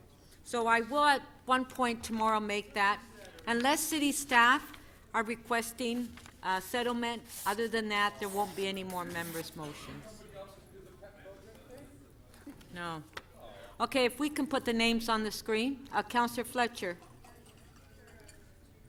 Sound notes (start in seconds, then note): 10.2 off microphone